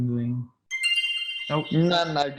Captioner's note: notification sounds